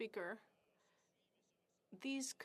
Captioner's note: speaking French